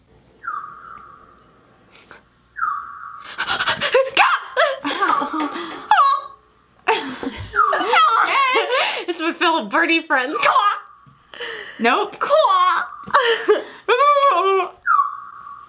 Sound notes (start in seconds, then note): 0.3 chirping; 3.2 gasps; 14.6 trilling